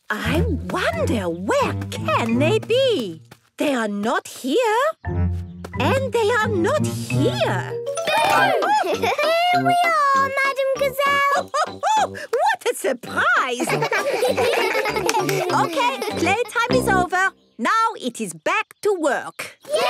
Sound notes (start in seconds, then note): 13.5 children giggling